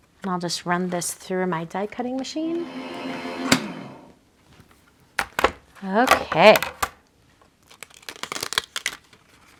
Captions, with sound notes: And I'll just run this through my die-cutting machine. (machine whirs) Okay.